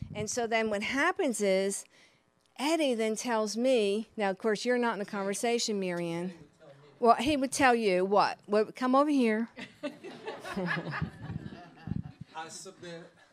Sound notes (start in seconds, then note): 9.6 audience laughing